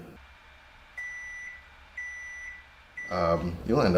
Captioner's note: beeping sounds